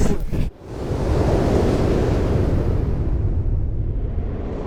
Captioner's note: the sound of wind rushing